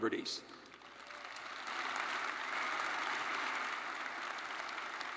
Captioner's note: attendees applauding